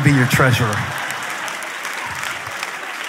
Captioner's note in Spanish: Risas